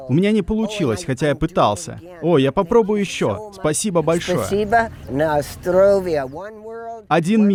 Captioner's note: in Russian